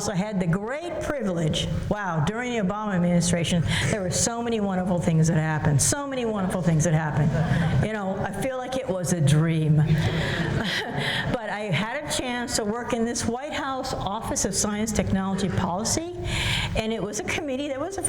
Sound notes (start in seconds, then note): 7.2 laughter; 10.0 laughs